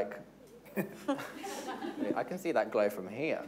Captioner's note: everyone giggling